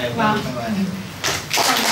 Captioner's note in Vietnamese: tiếng vỗ tay